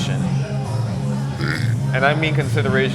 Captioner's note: burps